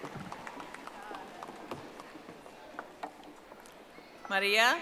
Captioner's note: audience applauding